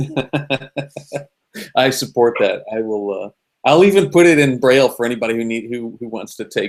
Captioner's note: laughing